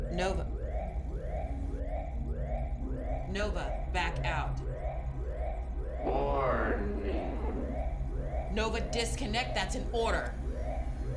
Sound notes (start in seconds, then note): 0.9 alarm blaring; 0.9 suspenseful music; 10.9 Nova whirring